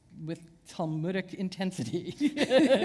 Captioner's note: chuckle